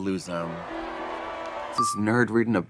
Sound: crowd cheering

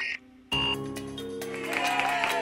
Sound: computer modem squawking; computer beeps; all cheering

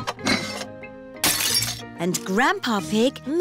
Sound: shattering

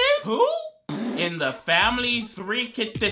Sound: sputters

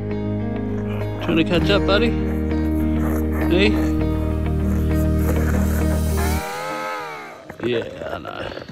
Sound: penguin calls

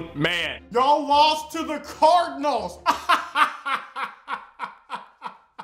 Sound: laughs

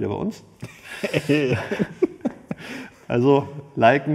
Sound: laughs

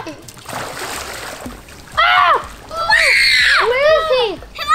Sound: screams

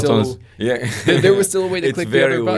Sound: laughs

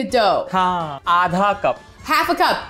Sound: speaking in Hindi

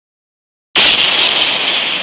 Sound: boom

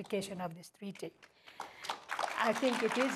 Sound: audience applauding

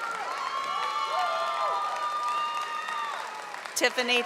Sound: audience applauding and cheering

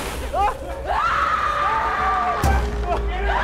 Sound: terror screams/chaos

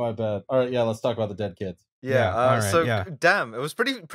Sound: cheerily

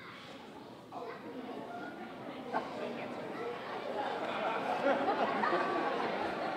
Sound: audience exclaiming and laughing

